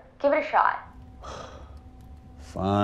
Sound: sighs

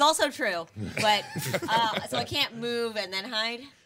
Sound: group laughing

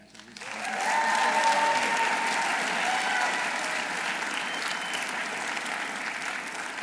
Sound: audience applauding; audience cheering

